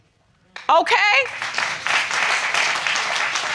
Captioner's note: audience applauding